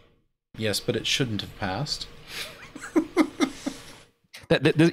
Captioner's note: laughs